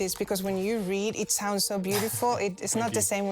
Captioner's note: laughs